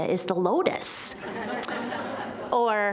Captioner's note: audience laughing